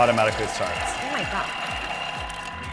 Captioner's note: Thermomix whirring